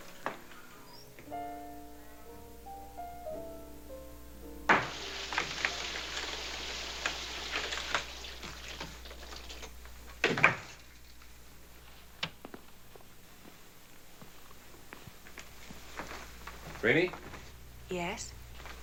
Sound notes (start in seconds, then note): 4.7 water running; 10.2 door shuts